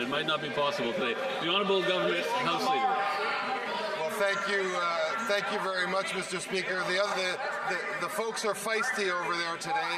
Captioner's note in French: voix de l'interprète